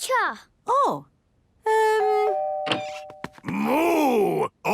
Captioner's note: doorbell ringing